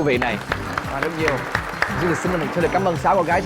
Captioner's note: applause